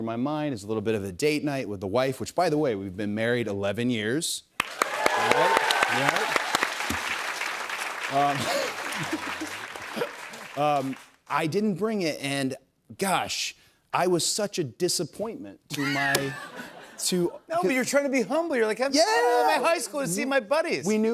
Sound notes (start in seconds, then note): 4.6 applause; 8.2 laughs